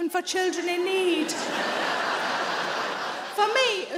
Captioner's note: audience laughing